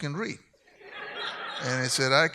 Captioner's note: audience laughs